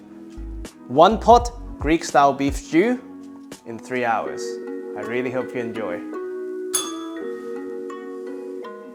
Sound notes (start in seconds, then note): 6.7 bell rings